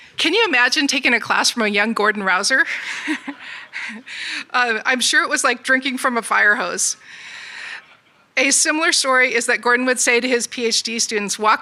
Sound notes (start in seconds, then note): 2.7 audience laughs